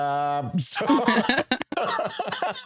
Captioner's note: laughing